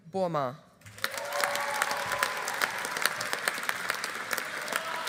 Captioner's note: audience applauding